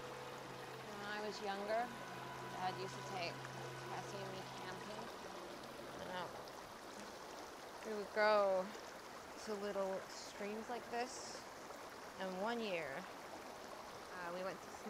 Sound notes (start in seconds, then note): 5.1 water flowing